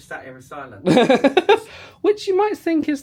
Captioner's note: laughing